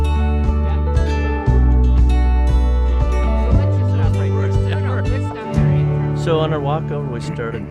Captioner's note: light music; indiscernible chatter